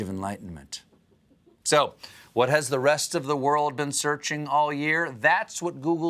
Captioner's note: chuckles